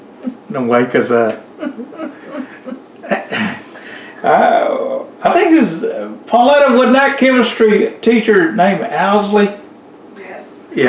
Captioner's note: laughter